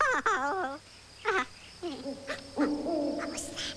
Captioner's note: owl hoots